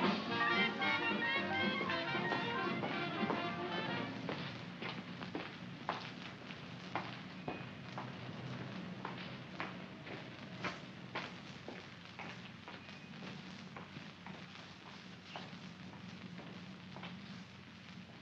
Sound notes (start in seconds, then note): 0.0 jaunty music heard faintly; 4.5 Kowalski's footsteps; 17.9 mens' footsteps